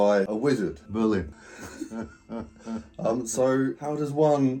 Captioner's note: both chuckling